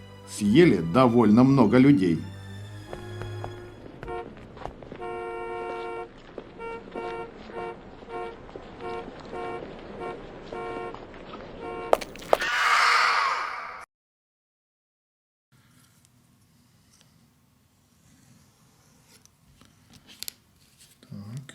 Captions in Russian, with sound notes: Съели довольно много людей… [Шум города: машины, пешеходы] [жуткий крик]